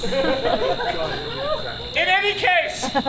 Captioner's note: audience laughs